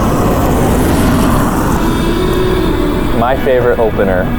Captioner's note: tires scrunching